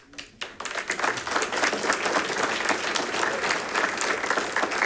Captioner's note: audience applauding